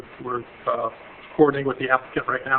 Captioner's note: none